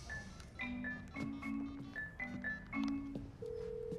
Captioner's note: dialing; line ringing